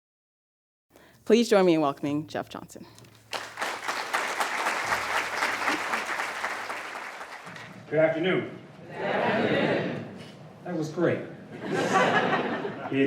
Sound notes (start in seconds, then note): 3.2 applause; 11.5 laughter